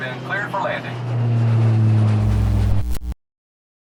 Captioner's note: distant plane